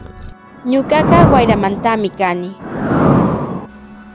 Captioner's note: wind